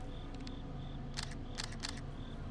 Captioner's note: camera shutter clicking